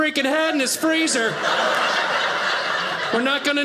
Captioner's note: audience laughing